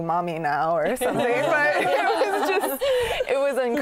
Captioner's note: laughter